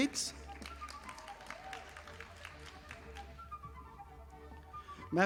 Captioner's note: audience applauding